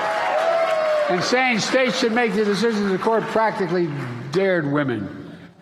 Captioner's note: applause